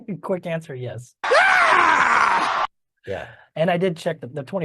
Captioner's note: man screaming